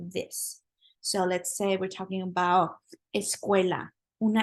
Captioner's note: spanish